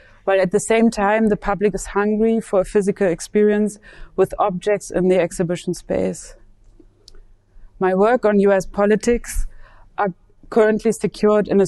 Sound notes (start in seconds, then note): none